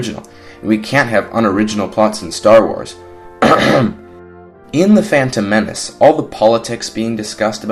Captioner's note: cough